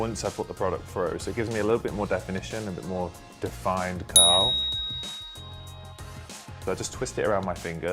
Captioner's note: ding